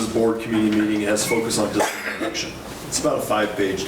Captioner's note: woman coughing